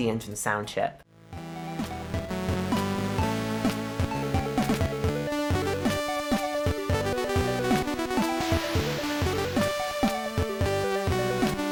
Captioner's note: very cool bleeps and bloops!